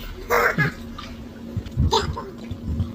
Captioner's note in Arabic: تنحنُح